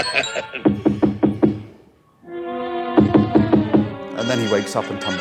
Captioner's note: door bangs